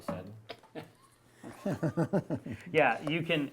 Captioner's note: chuckling